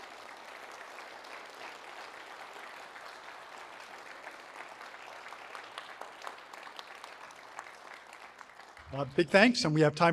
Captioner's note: crowd applauds